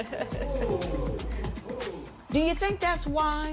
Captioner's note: laughs; spectators "ooh"